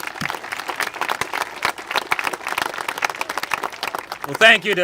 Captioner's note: congregation applaud